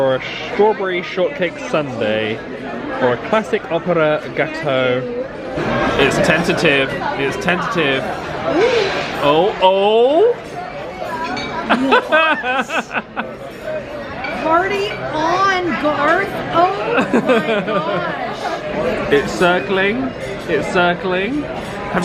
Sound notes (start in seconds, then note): 11.7 laughing